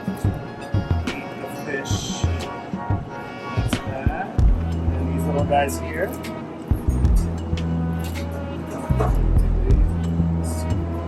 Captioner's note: scissors snipping